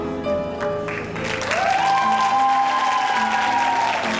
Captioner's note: cheering